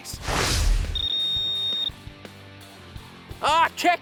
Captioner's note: beeping